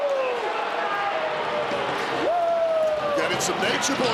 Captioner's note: crowd boos